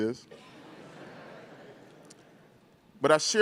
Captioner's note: crowd laughing